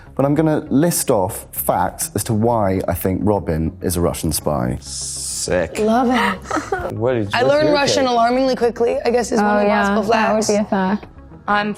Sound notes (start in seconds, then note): 6.4 Natalia giggles